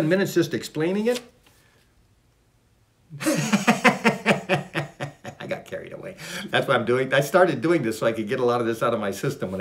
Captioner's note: laughs